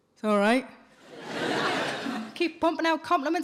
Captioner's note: audience laughing